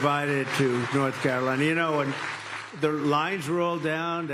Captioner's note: applause